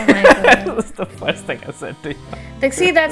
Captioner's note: laughter; laughs